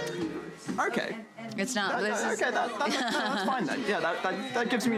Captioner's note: laughs